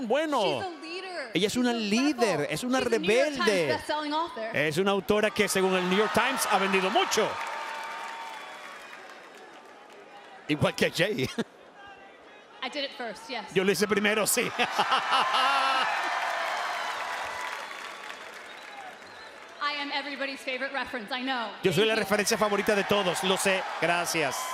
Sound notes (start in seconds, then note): 5.4 applause; 14.5 laugh